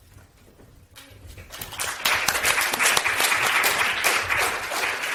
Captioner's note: audience applauds